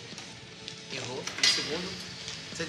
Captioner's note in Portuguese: imitando o Mestre